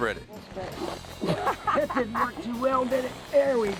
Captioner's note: laughing